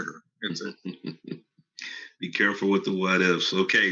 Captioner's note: laughs